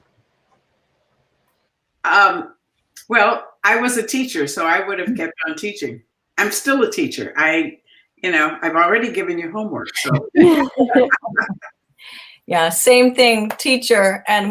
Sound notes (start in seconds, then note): 6.1 laughter